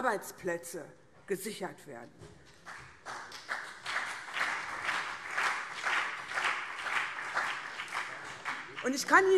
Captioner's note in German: Beifall CDU und BÜNDNIS 90/DIE GRÜNEN